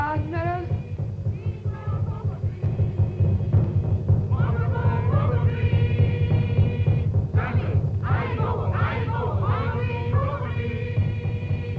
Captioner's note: chanting gets faster